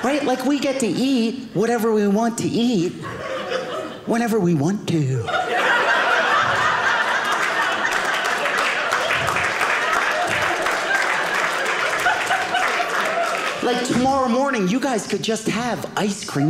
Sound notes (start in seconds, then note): 5.1 audience laughing; 8.9 audience applauding